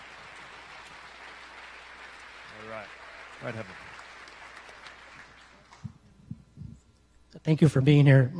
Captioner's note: applause